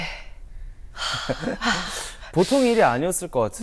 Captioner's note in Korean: 한숨